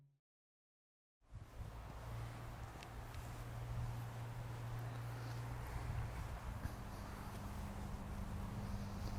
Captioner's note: footsteps and wind in the background